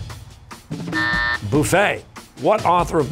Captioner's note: buzzer